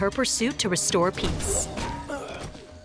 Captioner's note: groaning